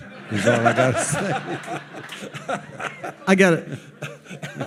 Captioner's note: audience laughing